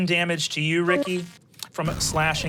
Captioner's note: computer beeps; engine powering down